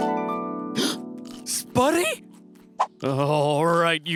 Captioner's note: gasps